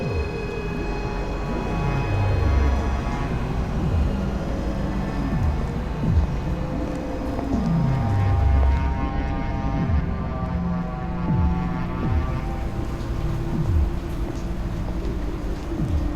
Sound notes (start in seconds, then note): 6.0 footsteps